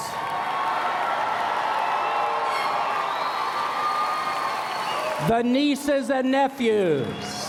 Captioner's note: cheers and Applause